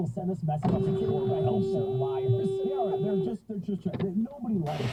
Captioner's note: bonk; beeeeeeeep!!!!